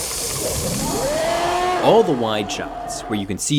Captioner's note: Predator roaring